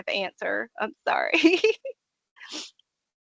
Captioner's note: laughing